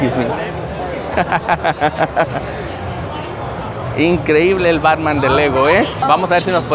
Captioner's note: laughs